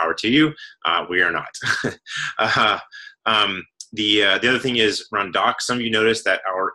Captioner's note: laugh